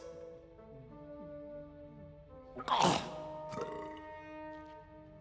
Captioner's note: swallows and belches